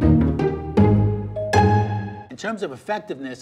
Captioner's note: timer dinging